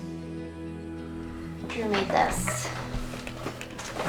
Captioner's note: none